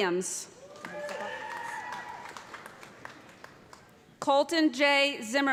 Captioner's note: cheers and applause